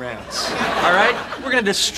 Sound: audience laughing

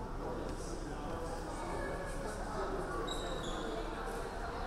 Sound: none

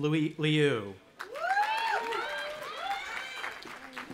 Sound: cheering

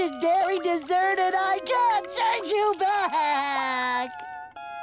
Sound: crying

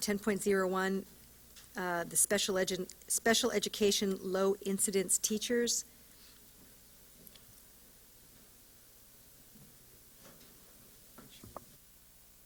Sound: silence

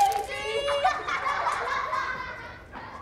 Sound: laughing

